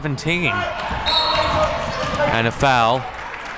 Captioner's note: whistle blows